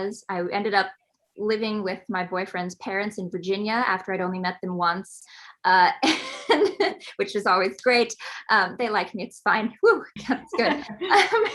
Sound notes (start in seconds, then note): 6.5 laughs